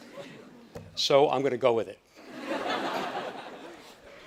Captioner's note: audience laughing